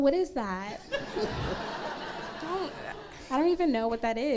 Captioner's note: crowd laughs